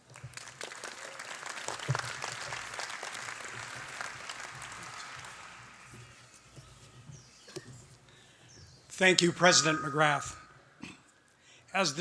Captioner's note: applause